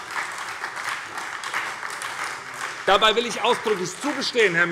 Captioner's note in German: Beifall bei der SPD